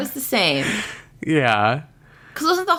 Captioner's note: laughs